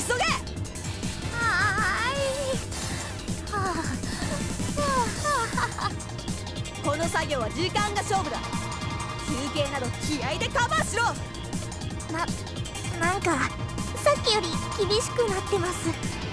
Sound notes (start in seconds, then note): 3.7 pant; 4.0 gasp